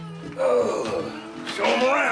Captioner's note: groans